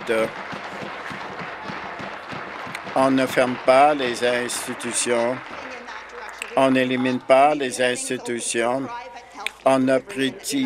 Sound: applause

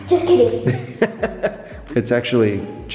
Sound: laughing

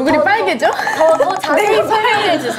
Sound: laughs

